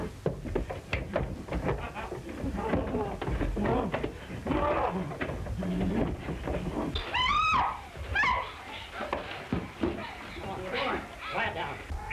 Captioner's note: screaming